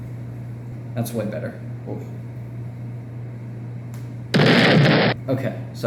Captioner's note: boom; flick